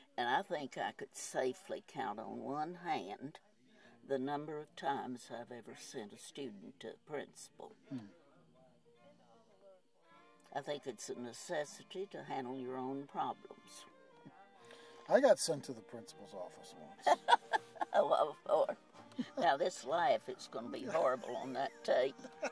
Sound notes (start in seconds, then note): 17.0 laughing